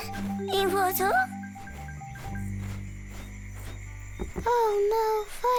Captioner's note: speaks in foreign language